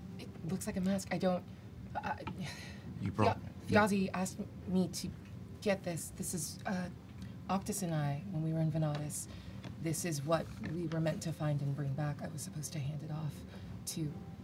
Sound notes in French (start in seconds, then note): none